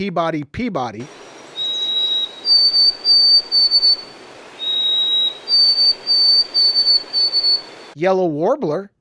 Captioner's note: bird song